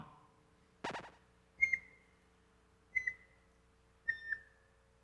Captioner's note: slow beeps